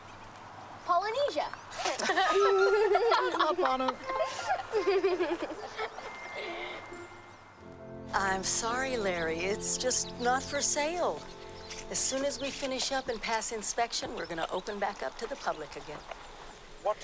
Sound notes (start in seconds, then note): 1.7 group laughing